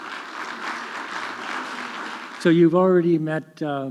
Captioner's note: audience clapping